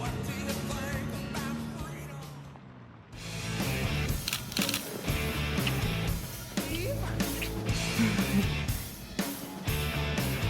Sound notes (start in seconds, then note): 3.3 upbeat music; 4.1 camera shutter clicking; 5.5 upbeat music